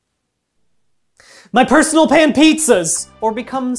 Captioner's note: gasp